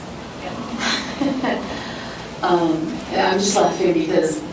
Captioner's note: laughter